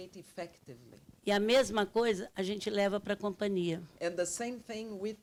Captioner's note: speaking Portuguese